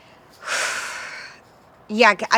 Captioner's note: sighs